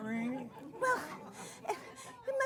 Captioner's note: laughter